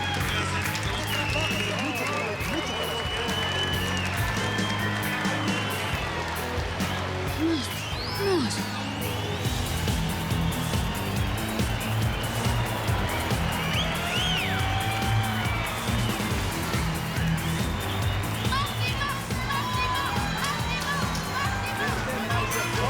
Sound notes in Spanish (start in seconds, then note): 0.2 Aplausos; 13.9 Aumenta el griterío; 13.9 Sirenas